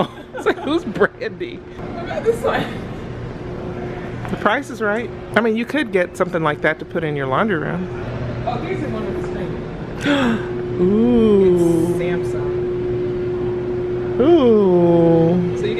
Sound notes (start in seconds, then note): 10.0 gasps